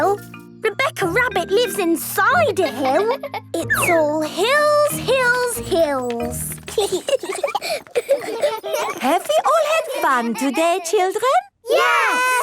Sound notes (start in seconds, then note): 2.6 laughing; 6.1 giggling